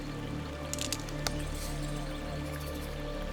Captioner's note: twig snaps